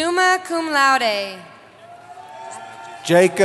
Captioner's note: cheering